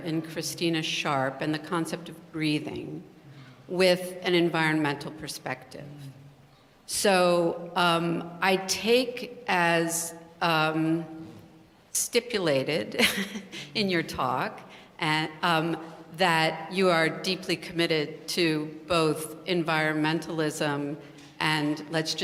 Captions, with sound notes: in Christina Sharpe, and the concept of breathing with an environmental perspective. So, I take as stipulated, [LAUGH] in your talk, that you are deeply committed to both environmentalism and-- let's